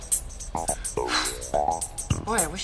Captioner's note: cat sighing